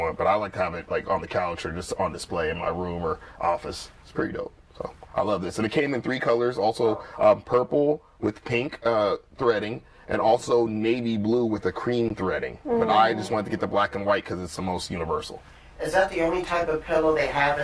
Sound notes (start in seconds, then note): 12.6 sounds of agreement